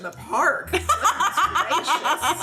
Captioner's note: laughing